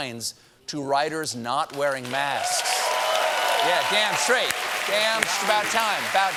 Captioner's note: cheers and applause